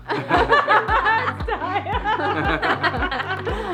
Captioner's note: all laughing